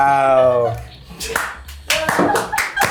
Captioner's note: people applauding; people laughing